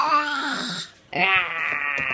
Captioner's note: growls